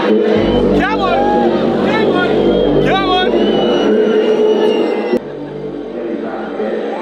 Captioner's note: crowd cheering